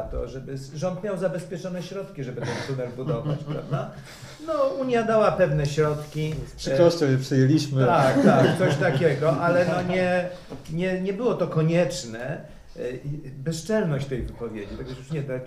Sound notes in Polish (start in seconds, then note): 8.0 śmiech